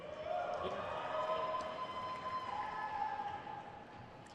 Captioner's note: crowd cheers